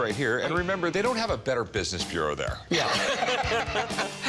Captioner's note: laughs; laughter